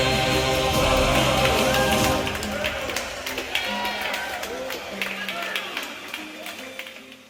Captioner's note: crowed Cheering